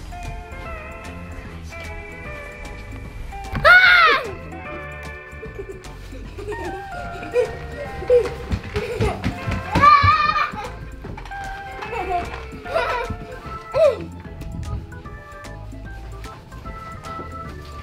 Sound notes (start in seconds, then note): 3.5 screaming and giggling; 9.7 screams